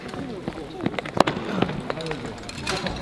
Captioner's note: rushing steps